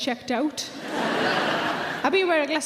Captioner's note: audience laughing loudly